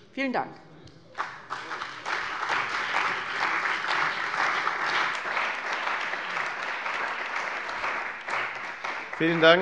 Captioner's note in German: Beifall bei der CDU und dem BÜNDNIS 90/DIE GRÜNEN